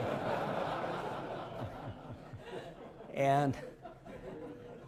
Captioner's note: laughter